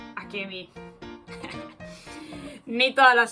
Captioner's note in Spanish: risas